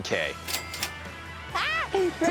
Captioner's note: cash register dings